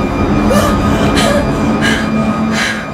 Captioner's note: gasping for air